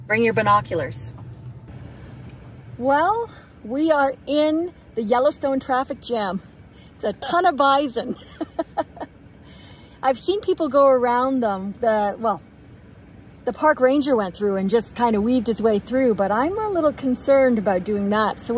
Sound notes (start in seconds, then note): 8.0 chuckles